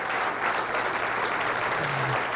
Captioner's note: applause